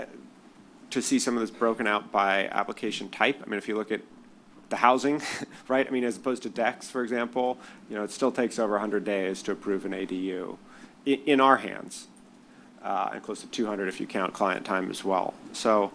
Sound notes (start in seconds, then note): 5.2 chuckles